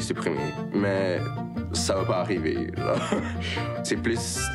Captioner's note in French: rire